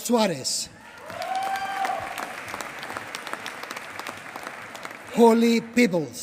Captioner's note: applause